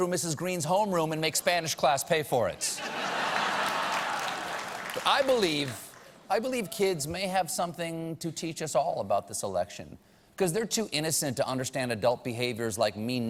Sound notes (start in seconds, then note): 3.3 applause